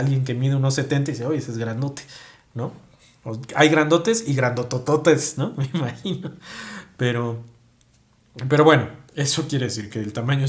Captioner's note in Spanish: risas